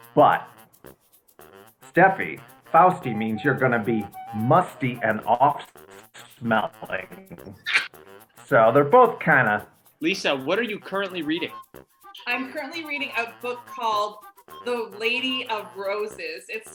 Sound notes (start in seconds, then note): 6.1 laughs